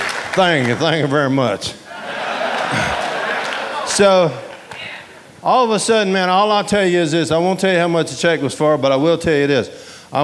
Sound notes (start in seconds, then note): 1.8 audience laughing